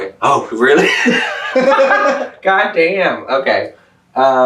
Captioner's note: laughs